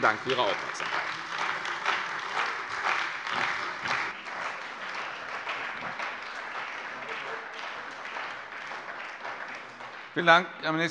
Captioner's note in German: Beifall bei der CDU und dem BÜNDNIS 90/DIE GRÜNEN